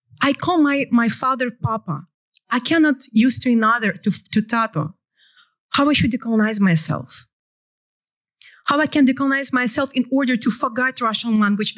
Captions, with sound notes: I call my father Papa. I cannot use to [NON-ENGLISH] to [NON-ENGLISH].. How I should decolonize myself? How I can decolonize myself in order to forget Russian language?